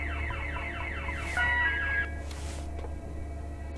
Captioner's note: alarm stops